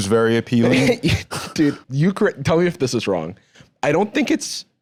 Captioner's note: laughs